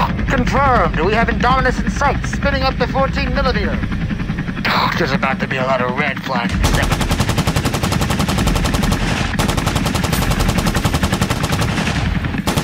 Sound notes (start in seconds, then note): 8.2 machine guns firing